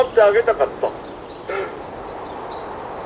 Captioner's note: sth gasps